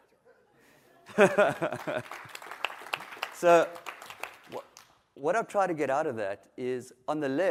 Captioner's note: applause